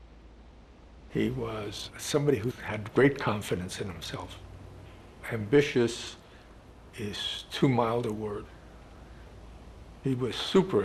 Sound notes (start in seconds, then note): none